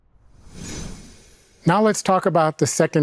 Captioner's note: graphics whooshing